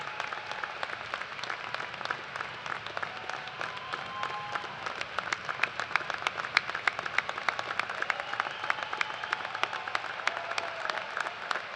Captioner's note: cheers and applause